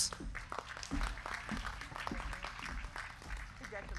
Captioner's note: crowd clapping